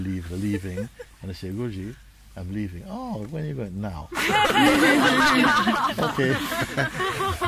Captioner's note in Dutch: gelach